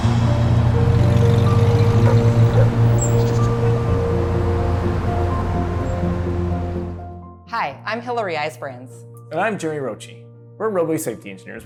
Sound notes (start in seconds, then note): 0.7 truck passing, dog barking; 4.3 birds chirping, street noise